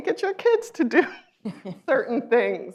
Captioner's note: laughs